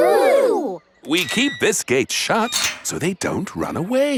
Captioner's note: none